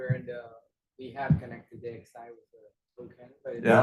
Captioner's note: speaking faintly